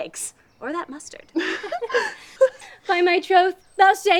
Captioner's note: laughter